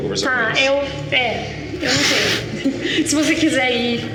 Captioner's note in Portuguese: risada